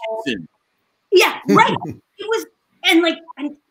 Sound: chuckles

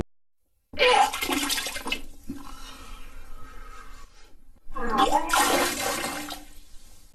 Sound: barfing

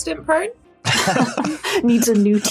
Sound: others laughing

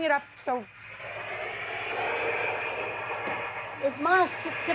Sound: white noise machine hissing

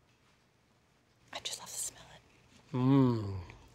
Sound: quietly

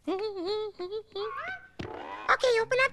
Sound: humming

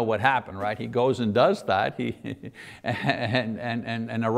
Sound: chuckles

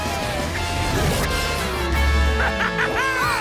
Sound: laughing

